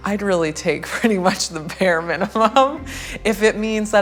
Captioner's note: laughing